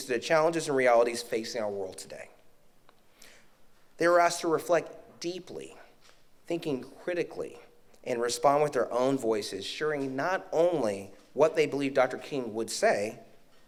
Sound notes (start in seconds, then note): none